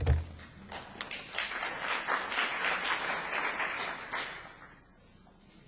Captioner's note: applause